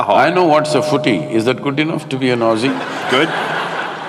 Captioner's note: laughter